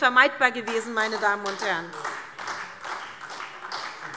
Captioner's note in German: Beifall SPD